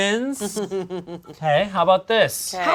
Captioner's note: laughing